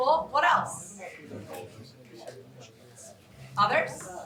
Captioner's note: indistinct chatter